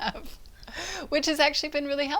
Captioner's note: both laugh